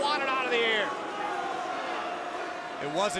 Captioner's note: crowd cheering